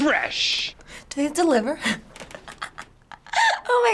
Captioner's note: laughing